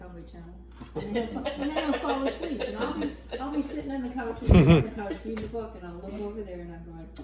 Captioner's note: laughing